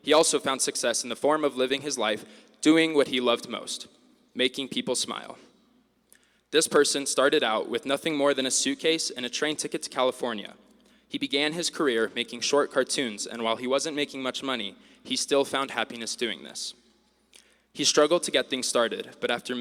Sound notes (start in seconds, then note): none